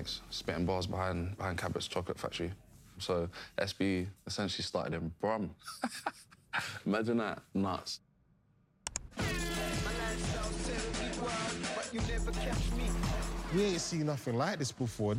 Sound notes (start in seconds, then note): 5.6 laughing; 9.0 hip-hop music